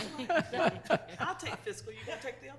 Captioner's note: laughing